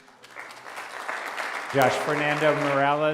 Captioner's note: applause